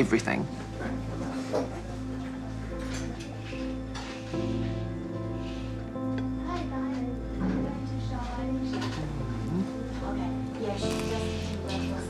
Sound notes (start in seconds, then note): 2.2 melancholy music; 6.7 distant chatter